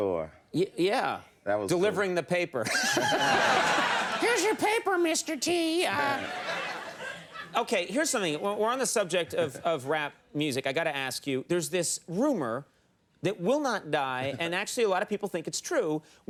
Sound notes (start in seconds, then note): 2.7 audience laughing; 5.9 audience laughing